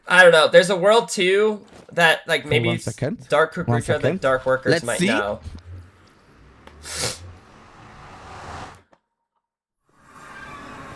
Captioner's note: snorts